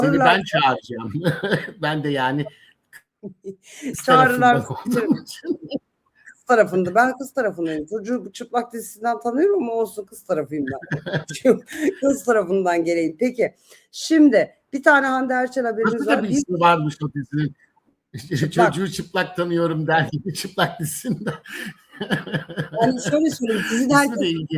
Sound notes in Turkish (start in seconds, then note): 1.0 kahkaha; 10.6 kahkaha; 20.1 kahkaha